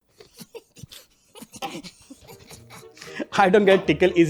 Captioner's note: chuckles